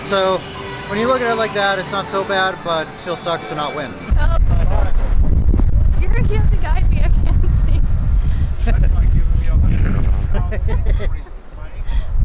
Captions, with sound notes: So, when you look at it like that, it's not so bad, but it still sucks to not win. - Oh. (strong wind blowing) (both laugh)